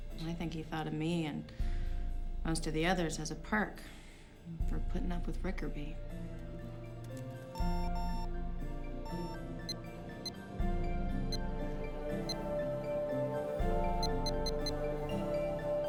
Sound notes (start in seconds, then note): 9.1 computer beeping